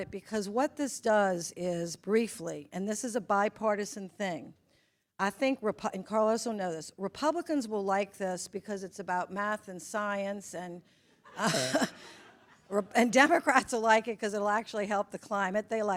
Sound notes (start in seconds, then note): 11.3 attendee chuckle